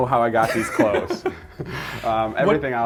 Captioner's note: laughing